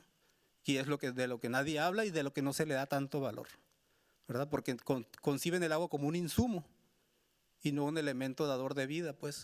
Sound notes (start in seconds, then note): 0.8 speaking Spanish continues